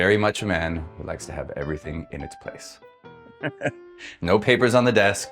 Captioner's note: chuckles